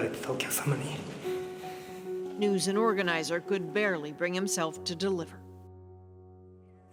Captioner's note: speaking Foreign Language